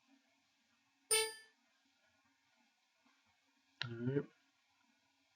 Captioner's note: electronic beep